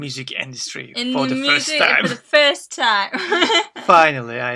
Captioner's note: laughs